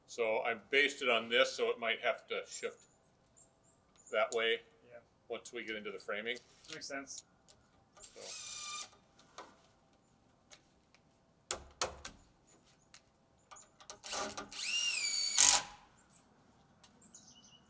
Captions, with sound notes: - So I based it on this, so it might have to shift that way. - Yeah. - We'll tweak into the framing - Makes sense. - So... (drill whirring) (drill knocking) (drill whirring)